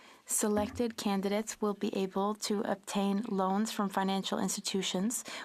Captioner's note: speaking French